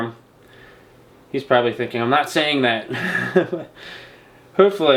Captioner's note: laughing